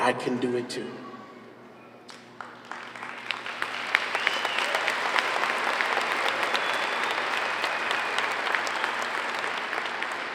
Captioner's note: applause